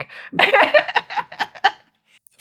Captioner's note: laughing